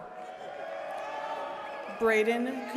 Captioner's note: attendees cheering